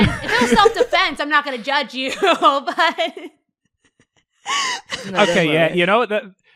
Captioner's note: laughs